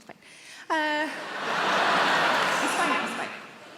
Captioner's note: audience laughing